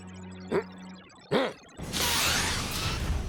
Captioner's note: grumbles